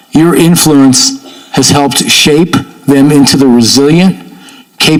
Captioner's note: none